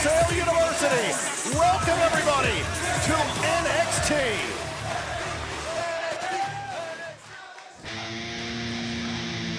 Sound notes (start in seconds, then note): 3.7 crowd cheering